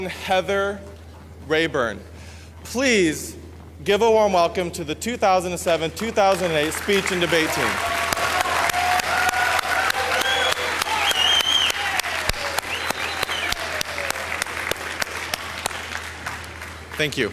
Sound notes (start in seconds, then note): 10.0 audience applauds